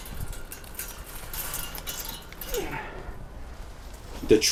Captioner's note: metal rattling